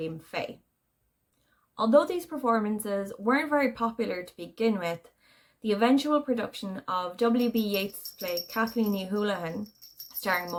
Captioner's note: off screen cat bell jingles